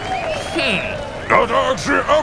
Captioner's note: screamer